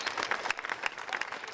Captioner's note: audience applauding